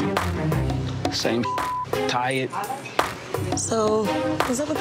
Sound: beeps

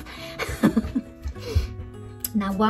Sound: laughs

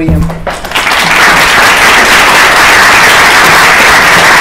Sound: applause

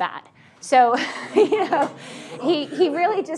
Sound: audience laughing

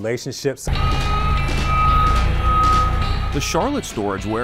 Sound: forklift beeping

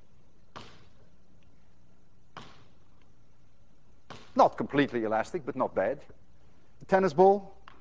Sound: ball bouncing

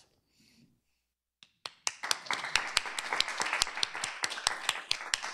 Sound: applause

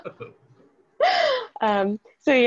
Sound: laughing

